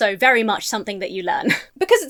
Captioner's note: laughs